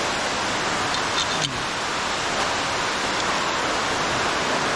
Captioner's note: metal scraping